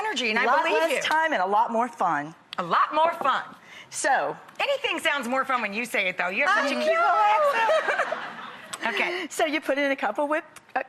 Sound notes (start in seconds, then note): 7.4 audience laughing